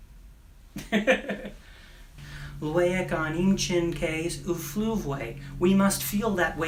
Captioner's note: laughs